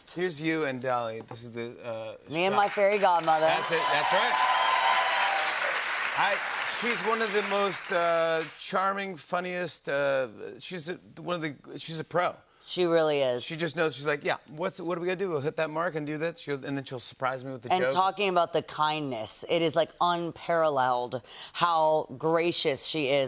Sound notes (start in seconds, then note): 5.1 cheers and applause